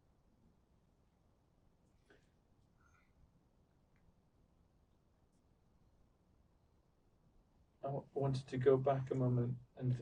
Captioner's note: pauses 8 seconds